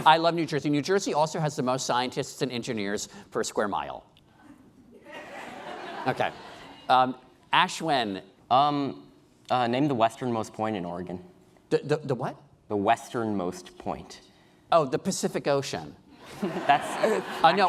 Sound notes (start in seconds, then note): 6.3 laughing